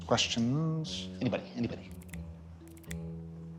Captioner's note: snapping rapidly